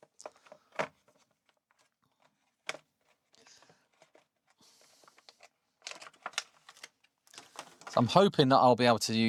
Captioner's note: silence